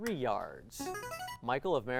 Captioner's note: ringing